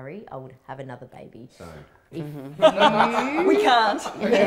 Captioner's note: all laughing